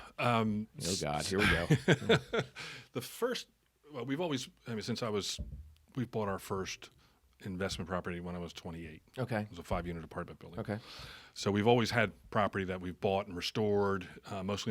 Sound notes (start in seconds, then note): 1.3 laughing